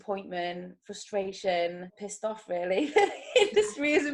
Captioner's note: chuckles